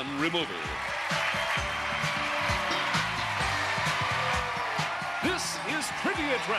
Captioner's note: cheers and applause